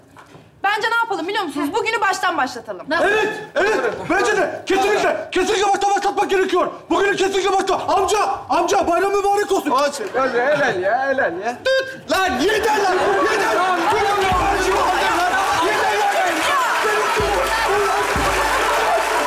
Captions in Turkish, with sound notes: Bence ne yapalım biliyor musunuz? Bugünü baştan başlatalım. -Nasıl? -Evet, evet. Bence de. -Öyle yapalım doğru. -Kesinlikle.Kesinlikle baştan başlamak gerekiyor. Bugünü kesinlikle baştan... Amca, amca bayramın mübarek olsun. Olsun. helal ya, helal ya. Lan yeter lan. Yeter. (bağrışmalar)